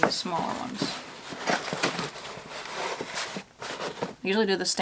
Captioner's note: shuffling